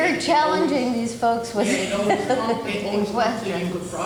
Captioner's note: laughing